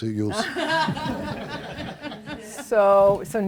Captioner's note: laughter